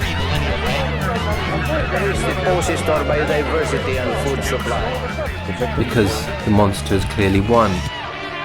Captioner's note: soundbite of archived recording